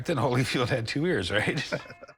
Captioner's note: laughter